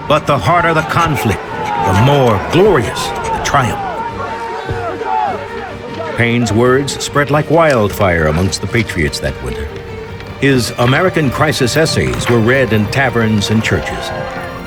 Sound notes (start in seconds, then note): 0.3 dramatic music; 4.8 yelling in background